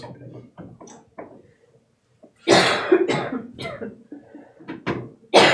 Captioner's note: coughing